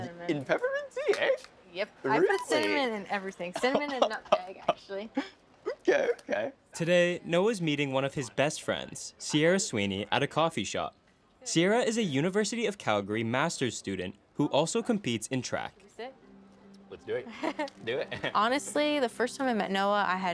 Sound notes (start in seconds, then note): 5.6 laughing; 17.3 chuckling